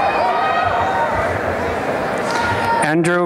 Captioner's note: applause and cheering